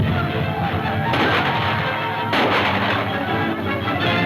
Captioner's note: gunfire pops